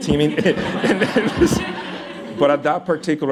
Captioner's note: laughter